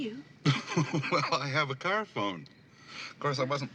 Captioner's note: chuckling